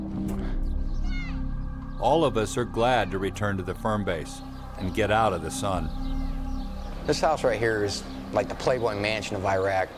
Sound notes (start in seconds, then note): 1.9 voiceover